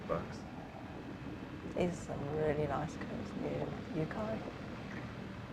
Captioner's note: insects